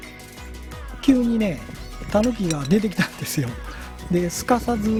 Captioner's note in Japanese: 笑い